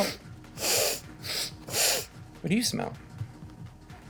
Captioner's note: sniffs